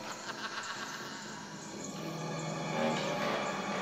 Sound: cackles

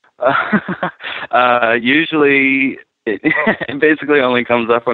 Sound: chuckling

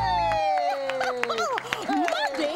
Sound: applause; cheers, laughs

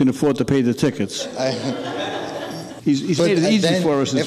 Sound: audience laughing

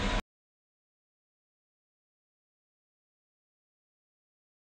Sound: silence

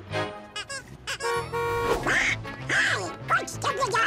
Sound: horn honks

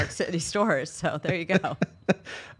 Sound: laughs

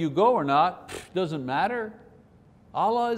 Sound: scoff

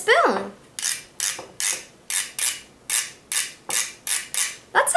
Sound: spoon rattling

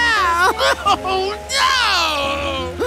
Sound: crying

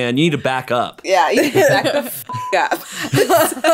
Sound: beep

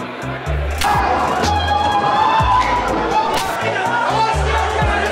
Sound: people yelling; people screaming; people yelling

